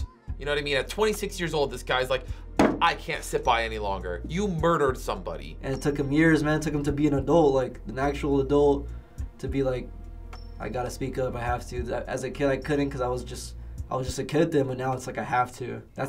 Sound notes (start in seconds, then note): 2.6 slams table